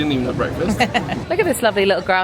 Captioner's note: laughing